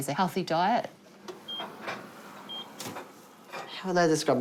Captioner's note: oven beeps